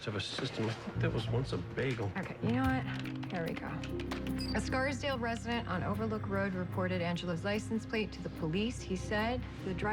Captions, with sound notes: I DON'T KNOW. HE MUST HAVE A SYSTEM. I THINK THAT WAS ONCE A BAGEL. OKAY, YOU KNOW WHAT? (typing) HERE WE GO. (computer beeps) A SCARSDALE RESIDENT ON OVERLOOK ROAD REPORTED ANGELO'S LICENSE PLATE TO THE POLICE.